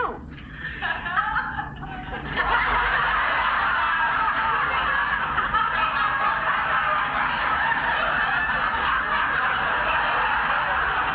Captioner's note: audience laughs